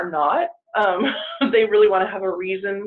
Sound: chuckles

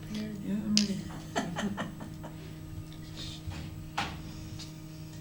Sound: laughter

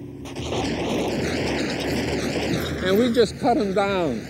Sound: gunfire rattling

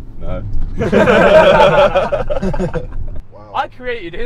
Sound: all laughing

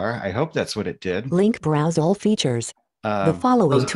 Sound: automated Voice

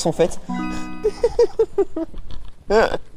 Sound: laughes

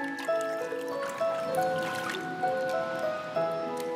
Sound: gurgles

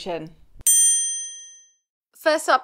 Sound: bell ringing

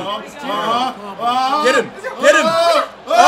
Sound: laugh

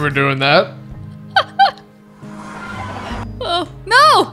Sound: laughing

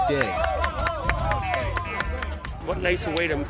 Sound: athletes shouting and clapping

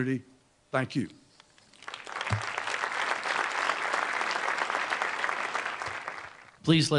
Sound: applause

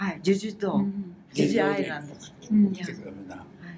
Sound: foreign language

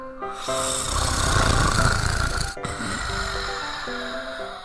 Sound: snoring

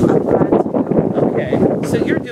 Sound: wind blowing

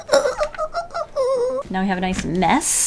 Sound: sound of a dieing weasel

